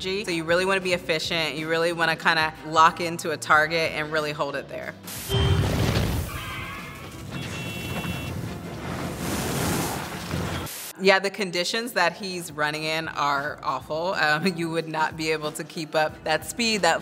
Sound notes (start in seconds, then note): 6.2 tires squealing; 7.7 horn honking